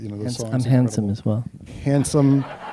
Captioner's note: laughter